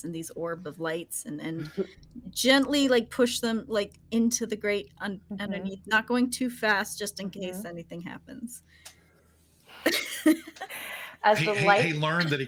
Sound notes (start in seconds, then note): 11.3 people chuckling